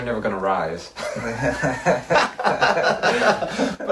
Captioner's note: laughs